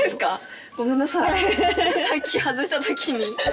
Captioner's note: laughs